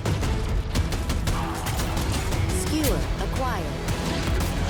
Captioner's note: gunfire